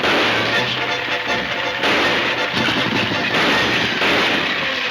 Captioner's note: gunshots banging